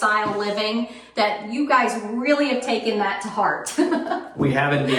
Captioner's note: laughs